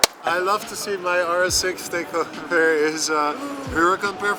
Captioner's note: none